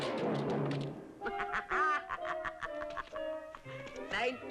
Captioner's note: laughing